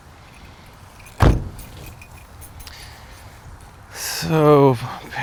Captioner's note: car door clunks